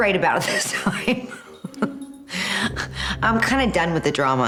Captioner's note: laughing